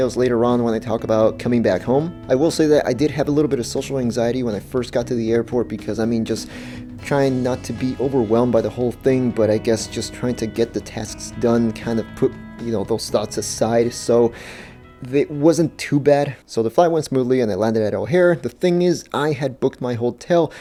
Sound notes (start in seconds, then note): none